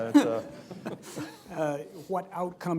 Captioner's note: laughter